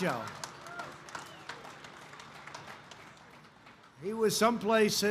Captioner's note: applause